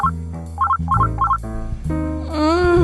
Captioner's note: phone rings